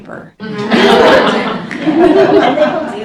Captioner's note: audience laughs